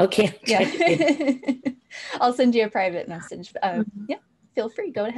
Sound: laugh

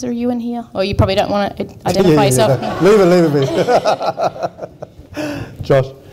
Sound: laughs

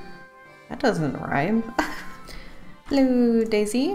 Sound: laughs

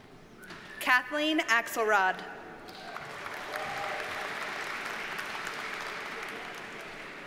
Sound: audience cheers and applauds

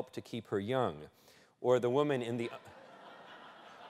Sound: laughter

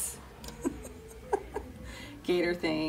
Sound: laughing

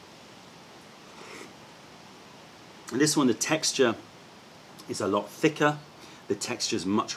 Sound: sips tea

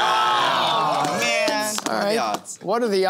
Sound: groaning

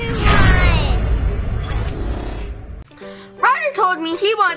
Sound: whoosh; electric zapping

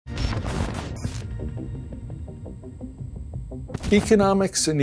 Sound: static crackling

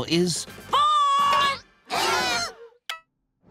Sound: gasping

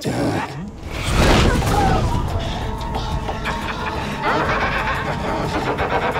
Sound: tense music; demonic laughter

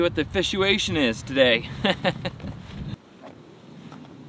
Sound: chuckles

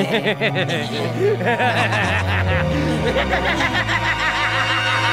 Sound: evil laughter

